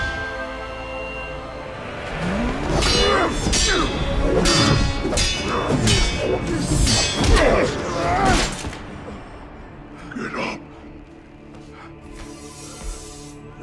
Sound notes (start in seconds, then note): 2.8 both grunting